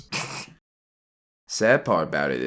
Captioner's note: snorts